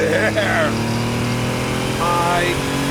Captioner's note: engine revving